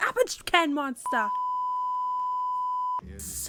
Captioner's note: peep